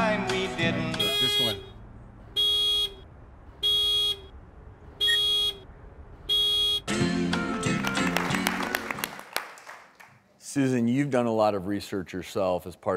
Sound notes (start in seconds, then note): 1.0 alarm beeps; 3.1 alarm beeps